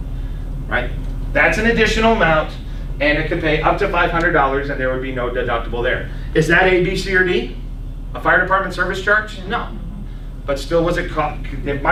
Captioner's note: laughs